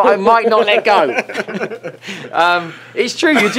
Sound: both laugh

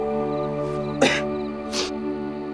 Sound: coughs; sniffs

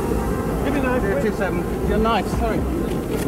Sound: tank roaring

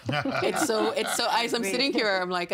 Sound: laughing

